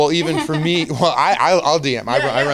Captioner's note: giggling